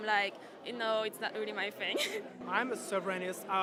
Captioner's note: laughs